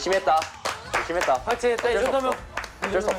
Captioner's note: applause of encouragement